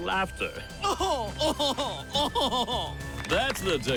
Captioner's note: laughs haughtily